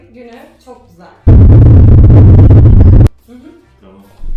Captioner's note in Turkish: çok yüksek ses efekti